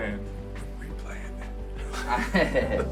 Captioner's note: whispers; laughing